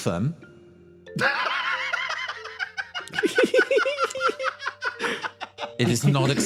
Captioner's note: laughs